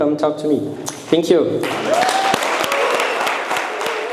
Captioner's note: audience applauding; audience cheering